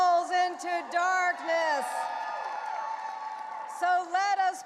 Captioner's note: audience applauding and cheering